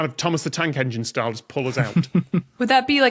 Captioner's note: snickers